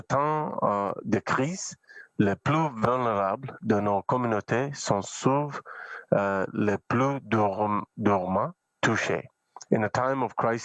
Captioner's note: speaking French